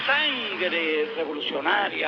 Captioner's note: speaking Spanish